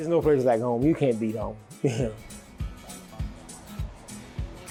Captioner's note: chuckles